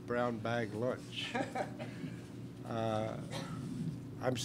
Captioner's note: laughs